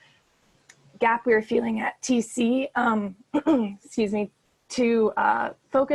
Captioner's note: clears throat